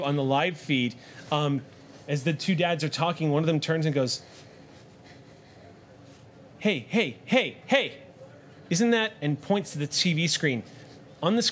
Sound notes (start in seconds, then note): none